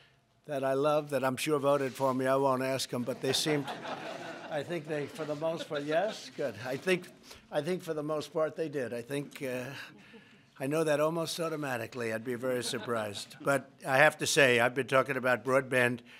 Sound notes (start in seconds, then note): 3.1 laughter